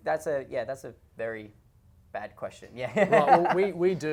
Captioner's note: laughs